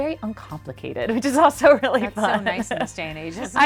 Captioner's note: laughs